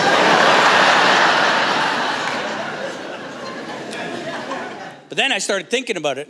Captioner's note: laughter